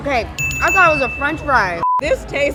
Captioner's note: ding ding